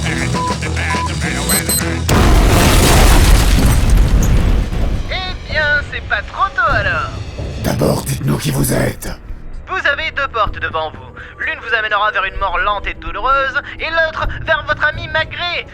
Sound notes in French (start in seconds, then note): 1.4 bip bip; 2.1 boum; 5.0 Voix de l'Homme-Mystère dans un haut parleur